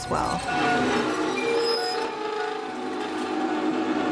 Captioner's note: metal screeching